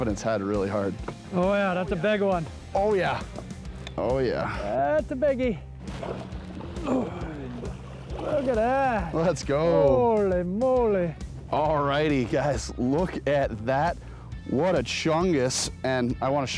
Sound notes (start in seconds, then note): 5.8 grunts